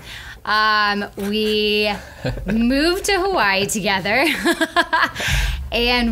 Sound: laughs

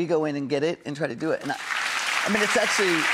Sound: crowd applauds

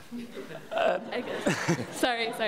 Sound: laughs; audience laughs

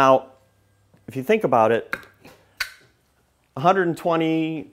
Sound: plug clicks

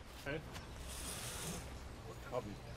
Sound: quiet conversations

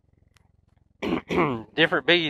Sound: clears throat

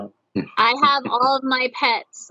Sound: giggles

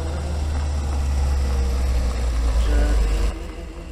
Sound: car engine

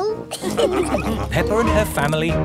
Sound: all laughing

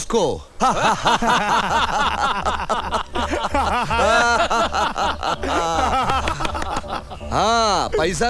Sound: laughs

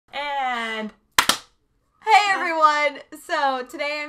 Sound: claps

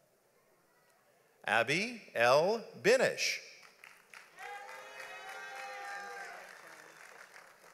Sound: audience applauds

